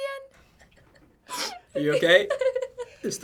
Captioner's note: laughs; chuckles